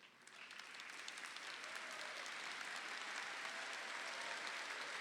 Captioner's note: audience applauding